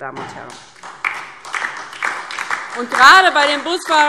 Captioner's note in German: Beifall DIE LINKE